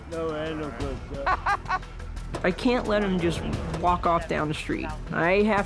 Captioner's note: laughs